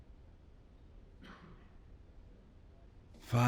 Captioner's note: coughs